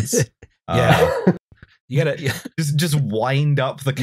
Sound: laughs

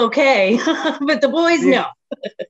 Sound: laughing

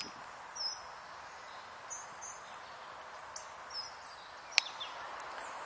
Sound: chirping sound of a tit or a chickadee

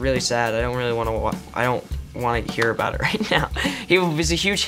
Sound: laughs

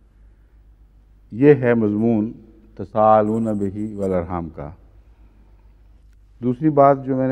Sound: Arabic

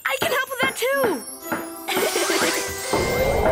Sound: laughing

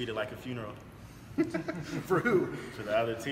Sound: laugh

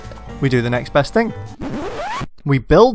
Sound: record scratch

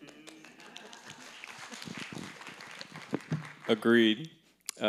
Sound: audience applauding

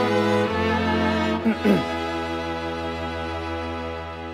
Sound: cough

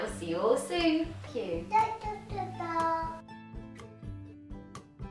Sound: baby talking

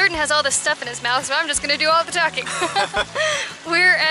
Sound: laughter

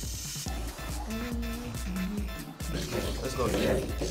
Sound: humming

